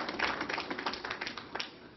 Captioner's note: applause